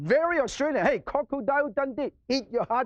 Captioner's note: speaking foreign language